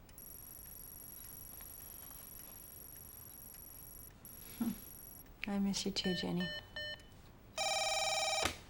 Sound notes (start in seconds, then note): 4.5 soft chuckle; 6.6 beeping; 7.5 phone ringing